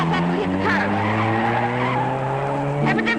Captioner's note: engine roaring